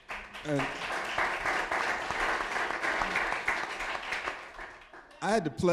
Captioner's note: applause